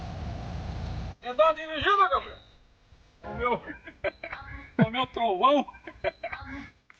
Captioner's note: speaking foreign language